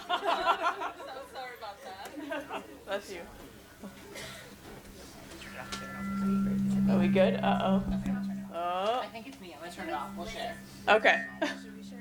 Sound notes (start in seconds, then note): 0.0 laugh; 5.4 mic reverbs